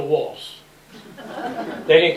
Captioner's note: laughter